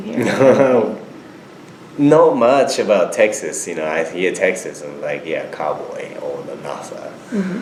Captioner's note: laughs